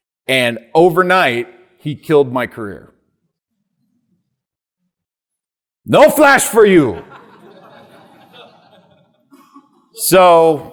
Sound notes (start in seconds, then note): 7.0 audience laughing